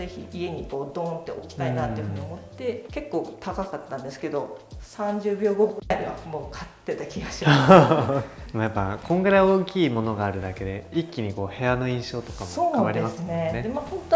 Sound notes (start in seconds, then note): 7.3 laughs